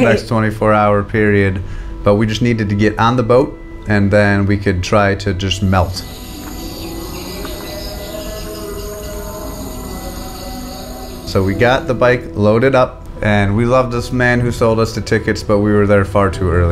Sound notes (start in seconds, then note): 5.8 birds chirping, call to prayer